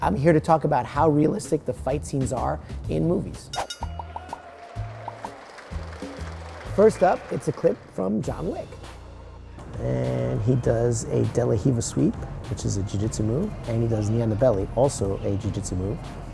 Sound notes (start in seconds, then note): 3.5 bell dings; 3.8 crowd cheers